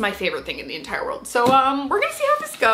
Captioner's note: box thumping